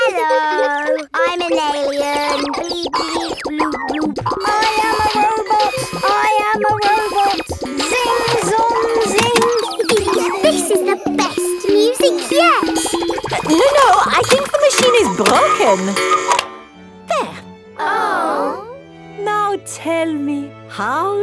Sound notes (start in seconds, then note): 0.0 kids giggling; 9.6 giggles; 16.4 cuckoo clock; 19.4 chamber music playing